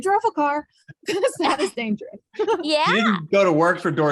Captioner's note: laughs